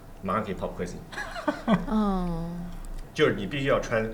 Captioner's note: laughter